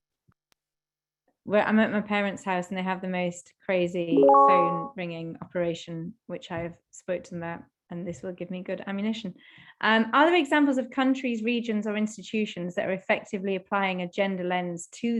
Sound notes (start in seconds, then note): 4.1 computer beeps